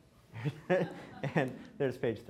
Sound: laughing

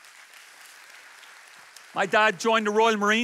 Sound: audience applauds

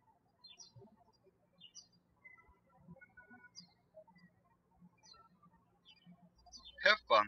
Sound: birds chirping

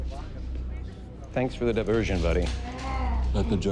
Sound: groaning

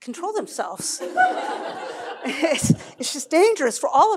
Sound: laughter

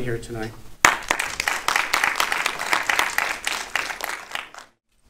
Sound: audience applauding

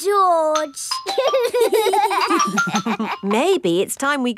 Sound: giggling

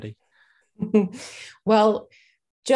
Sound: chuckles

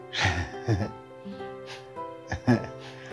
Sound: laughs

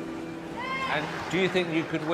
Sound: crowd cheering

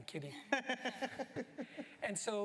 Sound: laughter

